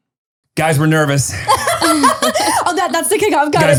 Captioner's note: laughs